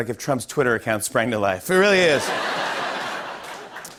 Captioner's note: laughter